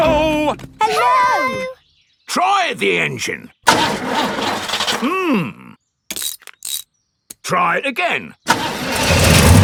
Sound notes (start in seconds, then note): 3.7 engine sputtering